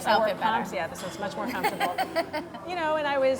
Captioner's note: laughs